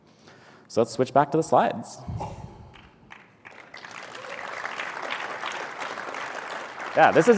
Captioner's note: applause